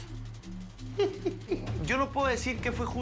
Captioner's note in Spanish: ríe